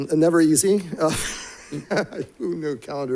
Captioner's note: chuckles